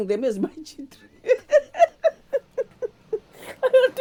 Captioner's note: laughter